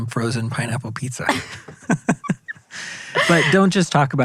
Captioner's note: both laughing